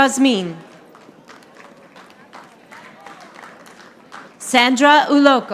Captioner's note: audience applauding